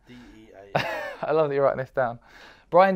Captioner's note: laughs